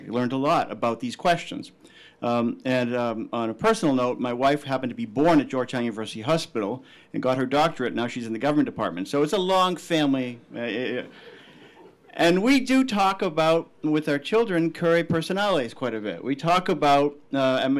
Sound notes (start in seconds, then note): 11.2 laughing